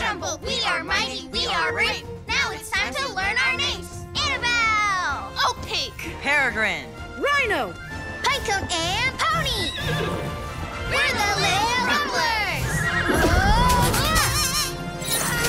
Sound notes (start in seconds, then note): 12.6 horse neighs; 12.6 scream; 13.3 pony fart